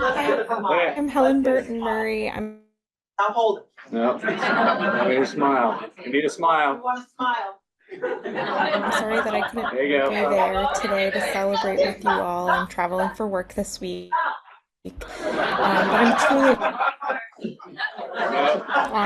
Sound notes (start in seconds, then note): 3.9 crowd chuckles; 7.9 crowd laughing; 14.9 crowd laughing